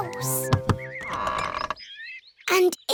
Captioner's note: door creaks